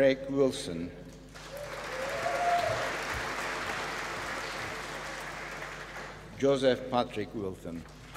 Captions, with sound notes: Craig Wilson. (APPLAUSE) Joseph Patrick Wilson.